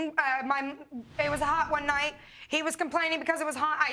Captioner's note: stammering